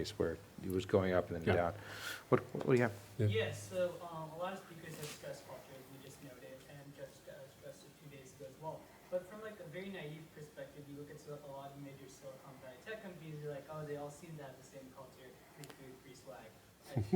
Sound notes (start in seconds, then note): 3.6 voiceover; 4.8 speaking off mic; 15.9 speaking off mic